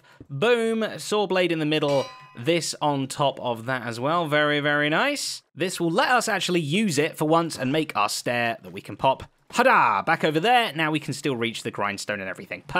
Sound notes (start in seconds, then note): none